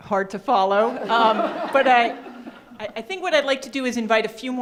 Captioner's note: crowd laughs